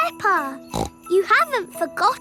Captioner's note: snorts